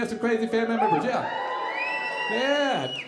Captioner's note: audience cheering